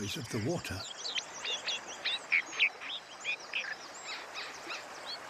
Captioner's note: melodic chirping